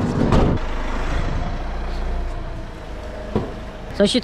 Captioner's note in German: motorgeräusche